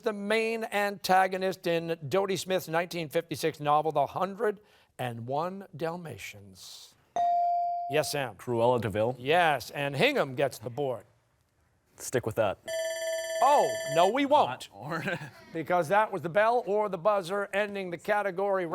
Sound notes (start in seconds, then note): 12.7 timer sounding